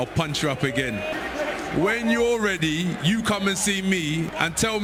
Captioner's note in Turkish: coşkulu tezahürat